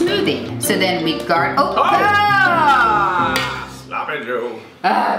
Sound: yells; yelling

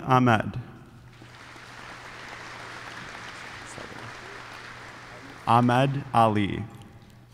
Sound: applause

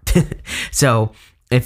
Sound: giggling

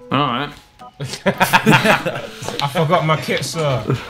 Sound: laughs

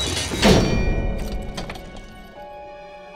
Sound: locking

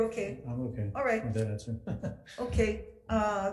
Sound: speaks faintly and laughs

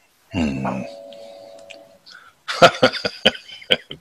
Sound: door bell ringing; laughing

